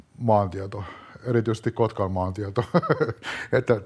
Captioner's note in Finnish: naurua